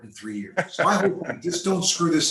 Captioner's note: laughs